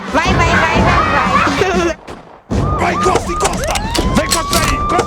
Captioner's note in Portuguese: Crianças brincam e conversam; Sirene ao fundo, arma engatilha, policial grita